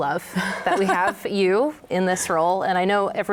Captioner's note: laughs